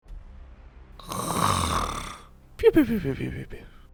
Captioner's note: snoring